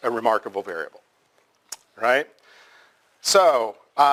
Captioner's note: pause